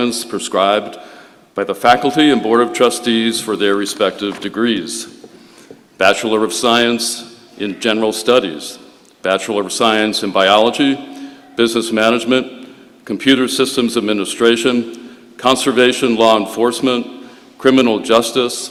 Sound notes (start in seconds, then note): none